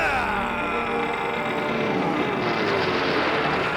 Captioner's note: creaking